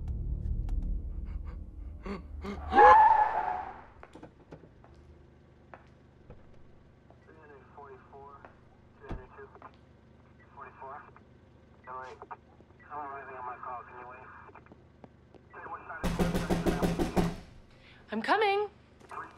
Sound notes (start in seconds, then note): 2.4 tires screeching; 7.7 policeman On Radio; 16.0 door knocking